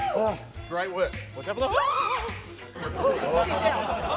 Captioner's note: screams